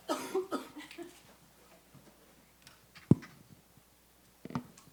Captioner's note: chuckles